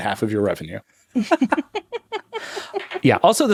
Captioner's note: laughing